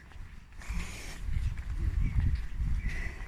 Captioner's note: steps